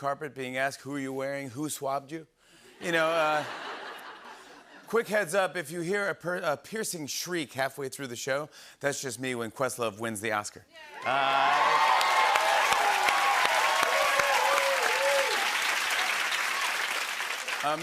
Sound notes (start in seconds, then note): 2.8 laughter; 10.9 cheers and applause